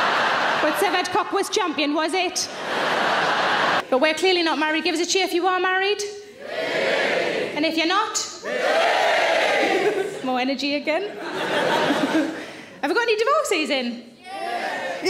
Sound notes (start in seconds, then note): 2.2 audience laughing; 6.6 audience cheering; 9.6 laughing